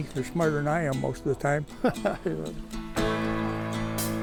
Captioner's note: laughs